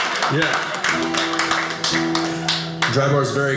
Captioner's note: audience applauding